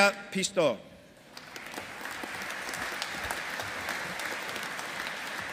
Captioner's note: audience applauding